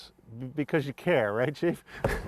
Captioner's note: laughter